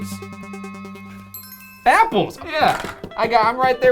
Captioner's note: light chime